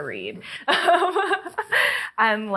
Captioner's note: laughing